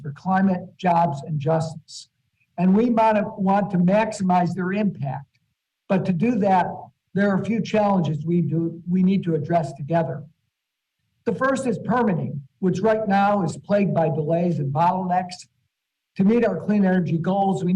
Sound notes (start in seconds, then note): none